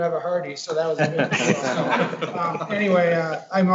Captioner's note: all laughing